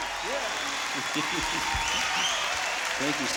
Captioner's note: chuckling